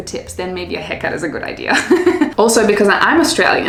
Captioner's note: laughs